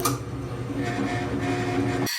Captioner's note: drill whirring